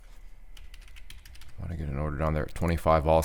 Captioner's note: typing